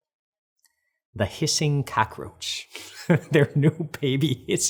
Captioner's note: laughs